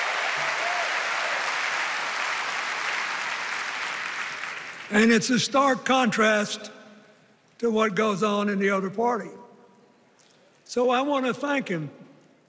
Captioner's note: cheers and applause